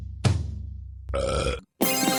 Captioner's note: burps; sped up music